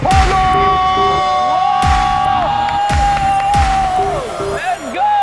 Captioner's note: Shouting